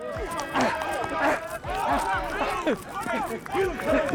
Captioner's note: player grunts